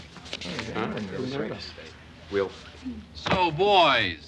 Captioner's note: chatter